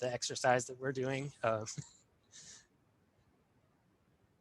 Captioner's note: chuckles